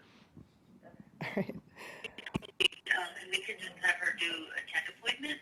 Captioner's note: student's mic unmuted